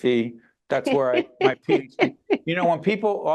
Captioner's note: laughing